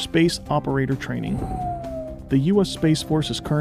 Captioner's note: aircraft noise